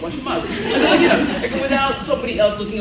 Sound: laughs

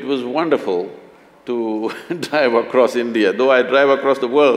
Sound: laughs

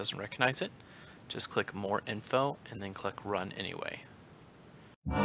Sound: start Sound

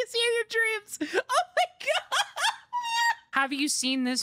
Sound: laughing

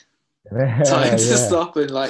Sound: laughter

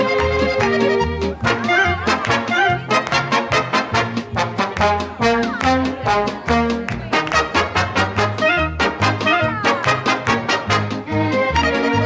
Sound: applause

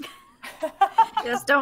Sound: players laughing

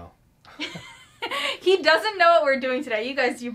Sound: laughs

